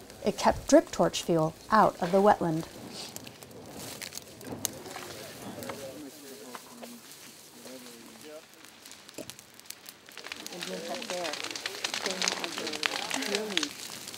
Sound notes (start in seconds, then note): 4.3 indistinct chatter; 8.2 crackling fire